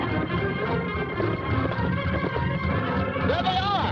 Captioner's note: horses galloping